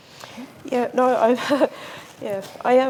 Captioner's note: chuckles